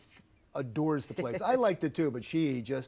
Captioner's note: laughs